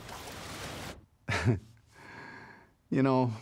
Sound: chuckles

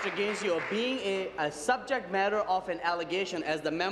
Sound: applause

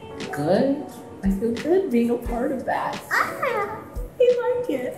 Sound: squeals

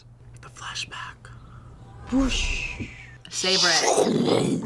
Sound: whispers

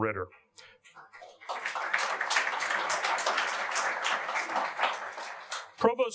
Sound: audience applauding

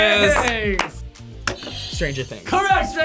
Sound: buzzer rings

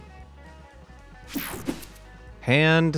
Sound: air swooshing

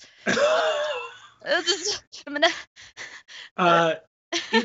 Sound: laughs

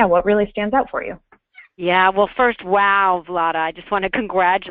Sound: voiceover

